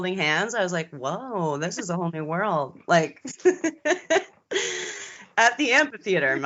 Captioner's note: both giggling